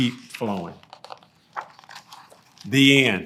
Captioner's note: pages rustling